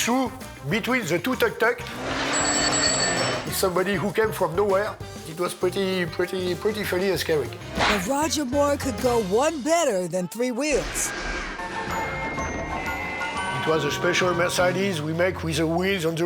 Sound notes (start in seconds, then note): 2.0 bell ringing; 11.6 twinkling music; 12.1 car horn honking